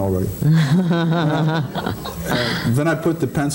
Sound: laughing

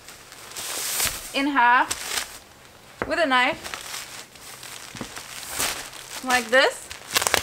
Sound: plastic rustling

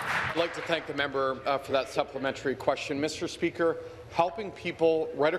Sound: applause

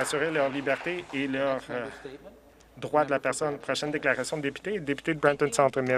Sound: some Applause

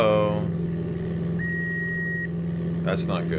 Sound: beeping

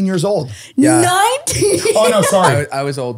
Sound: laughs

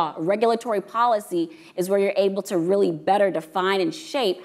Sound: none

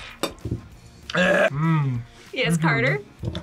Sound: gags

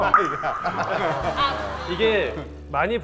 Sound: hahaha

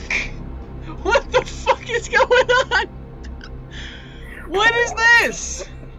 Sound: laughing

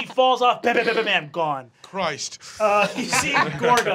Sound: laughing

